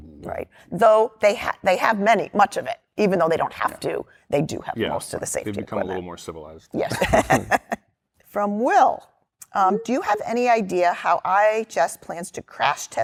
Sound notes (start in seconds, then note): 6.8 laughter